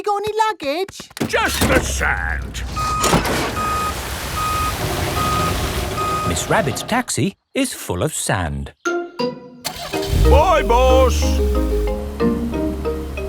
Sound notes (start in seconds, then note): 3.1 beeping; 9.6 car engine starts